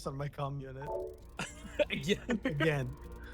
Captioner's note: laughs